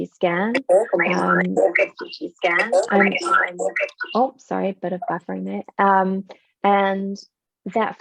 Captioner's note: voice echoing